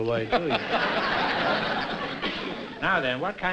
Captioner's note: laughter